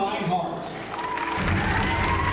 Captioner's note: applause